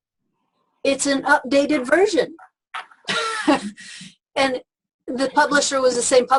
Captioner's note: laughs